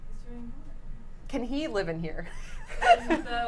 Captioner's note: laughs